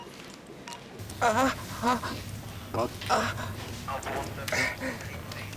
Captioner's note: he groans